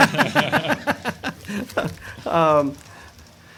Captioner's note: laughter